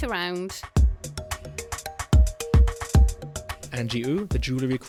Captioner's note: voiceover